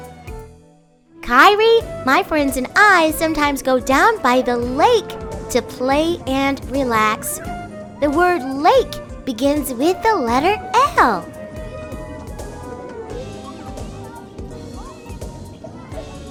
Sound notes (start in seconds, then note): 9.0 kids playing ambiance in background